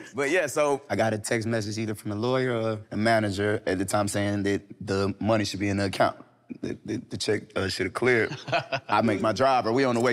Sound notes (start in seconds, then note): 8.1 Damson laughing amusingly